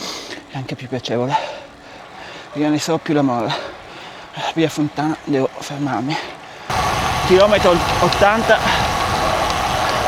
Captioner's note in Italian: sbuffare